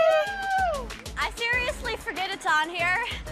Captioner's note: all cheer